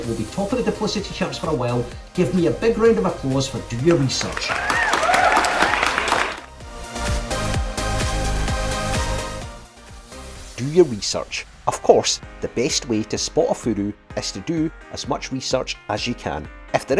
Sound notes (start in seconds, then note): 3.9 audience cheers and claps